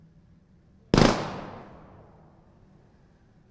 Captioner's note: gunshot